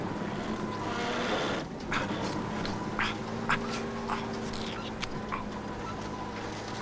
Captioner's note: truck creaks; Latrell grunts